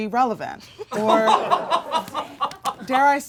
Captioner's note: audience laughing